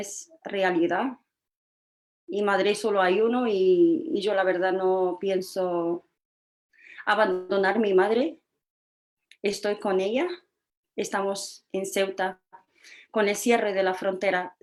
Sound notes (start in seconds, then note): none